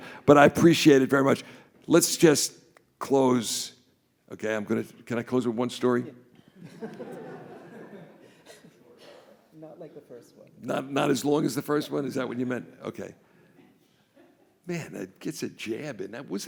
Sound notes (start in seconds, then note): 6.6 audience laughs